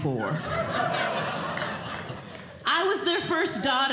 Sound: audience Laughing

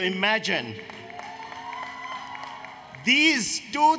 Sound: applause, Cheering

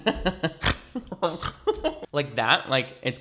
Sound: laughs; snorts

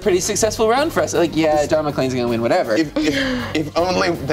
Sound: voice is muffled

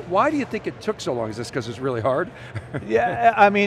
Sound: chuckles

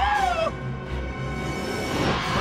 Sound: engines roaring

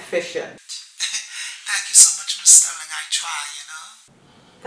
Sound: laugh

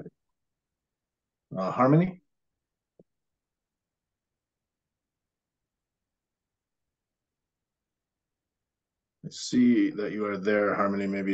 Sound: pause

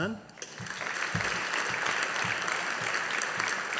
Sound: audience applauding

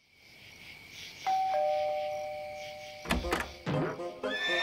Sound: doorbell rings

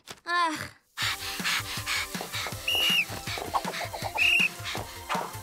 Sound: panting, whistle blowing

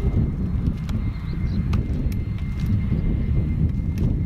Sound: wind blowing

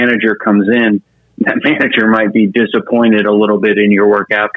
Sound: laughs

